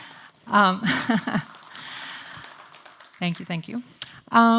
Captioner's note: applause